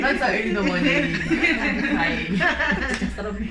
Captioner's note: laughter